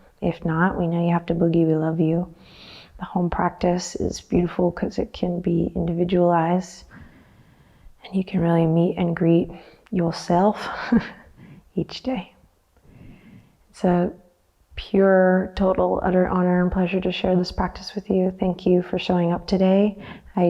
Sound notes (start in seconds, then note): 11.1 chuckles